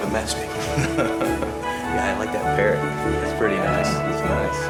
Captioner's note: laughs